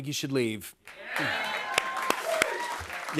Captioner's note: cheers and applause